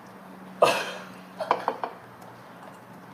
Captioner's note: DONG chuckles